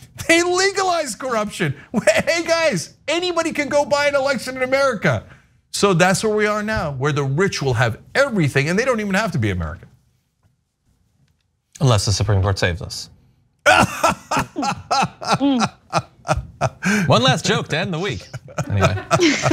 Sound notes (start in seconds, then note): 13.6 laugh